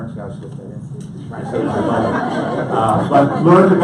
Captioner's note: audience laughs